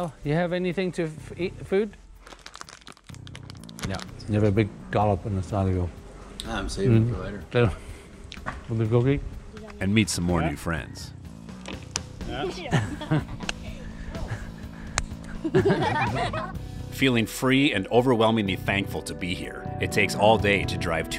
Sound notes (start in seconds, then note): 11.8 hands clap; 15.2 laughter